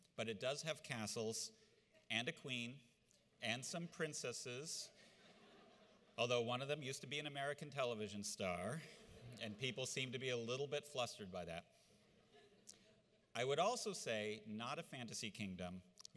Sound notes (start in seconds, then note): 5.0 audience laughs; 9.0 audience laughs